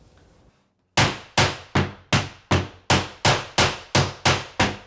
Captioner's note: hammer pounding